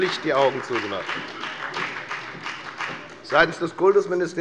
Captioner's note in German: Beifall bei der FDP und der SPD